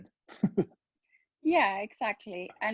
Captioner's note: laughing